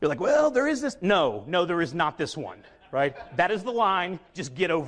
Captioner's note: audience laughs